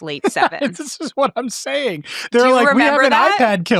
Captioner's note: chuckling